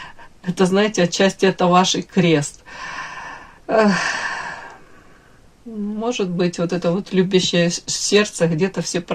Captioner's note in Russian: вздыхает